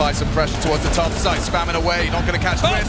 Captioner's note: gun firing